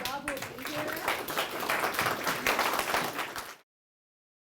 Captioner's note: audience applauding